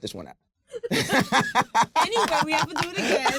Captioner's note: laughs